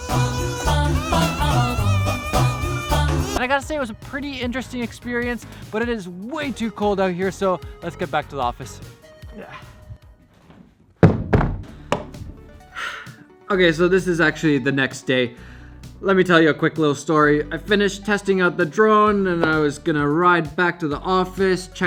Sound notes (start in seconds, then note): 0.2 wacky music; 9.4 grunting; 9.8 thudding; 12.6 sighs